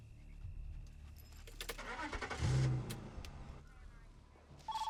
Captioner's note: engine turns over; telephone ringing